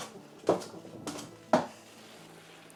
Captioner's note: clunking